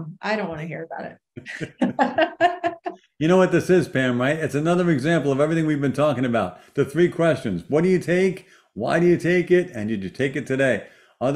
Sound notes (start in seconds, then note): 1.4 laughs